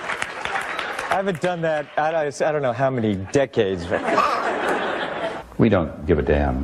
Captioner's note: wheeze